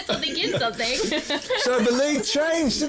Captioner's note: chuckles